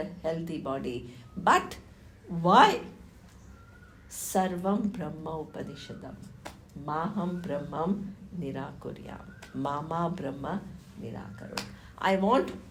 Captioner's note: non-english speech